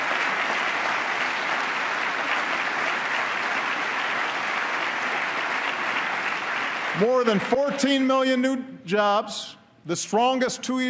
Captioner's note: applause